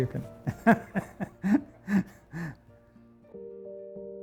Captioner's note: laugh